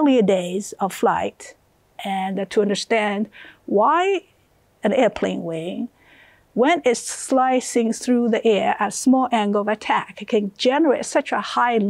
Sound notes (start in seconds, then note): none